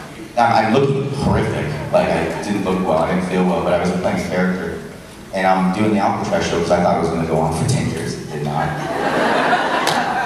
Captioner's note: crowd laughs